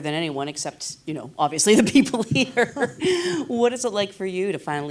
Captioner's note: laughs